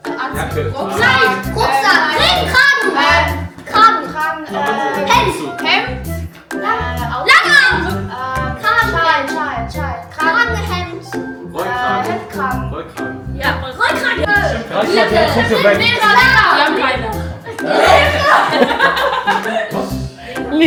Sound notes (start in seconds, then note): 6.6 speaking German; 11.6 speaking German; 17.7 laugh; 17.7 speaking German